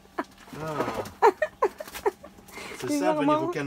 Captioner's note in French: rire